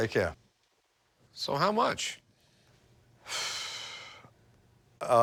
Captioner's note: exhales